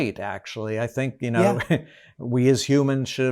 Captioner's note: chuckles